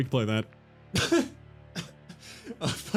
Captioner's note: distant laugh